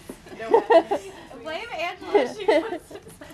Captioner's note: laughs